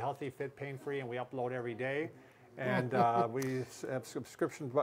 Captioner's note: laughing